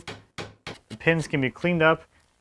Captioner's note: wood taps